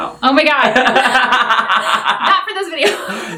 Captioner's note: laughing